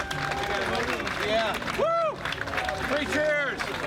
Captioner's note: crowd cheering